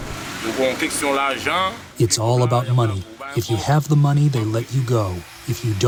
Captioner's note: through translator